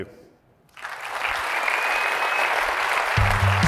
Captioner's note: applause